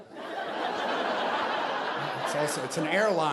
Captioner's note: audience laughing